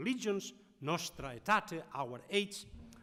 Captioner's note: speaking in foreign language